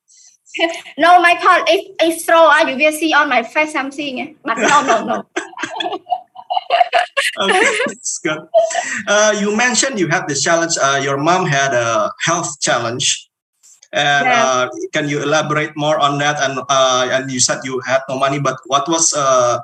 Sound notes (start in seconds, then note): 7.0 laughing